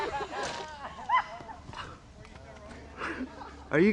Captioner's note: laughter